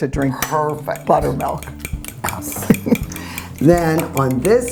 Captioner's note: scoffing